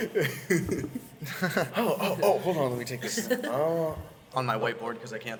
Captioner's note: laughs